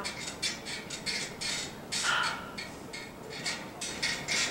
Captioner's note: trampoline squeaking